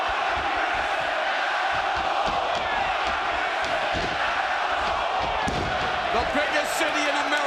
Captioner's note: crowd cheering